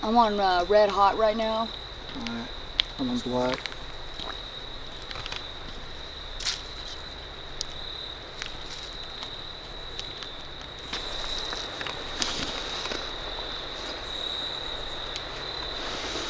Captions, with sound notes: - I'm on red hot right now. - All right. I'm on black. (crickets)